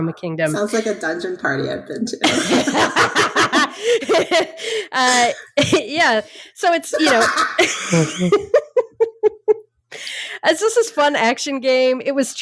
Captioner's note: more laughing